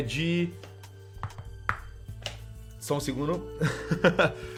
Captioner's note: laugh